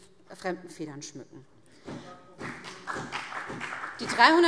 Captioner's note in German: Beifall BÜNDNIS 90/DIE GRÜNEN